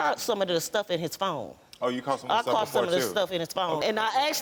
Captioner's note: none